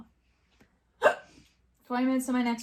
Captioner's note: hiccups